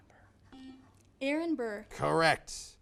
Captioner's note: buzzer buzzes